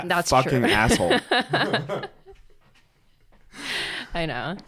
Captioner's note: both laughing